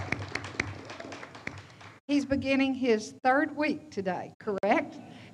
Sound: audience applauds

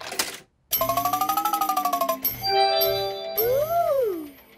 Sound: beeps and chimes

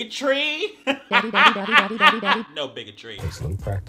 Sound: laughing

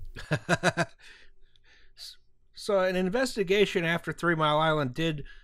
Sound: laughter

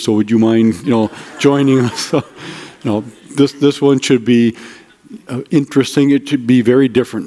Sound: audience laughter

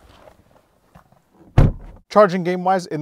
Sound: car door thuds

